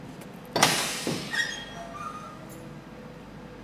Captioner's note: hissing sound, squeaking